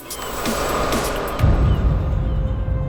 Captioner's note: wind whooshing; sinister music